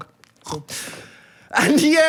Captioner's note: snorts